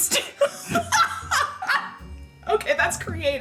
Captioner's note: laughing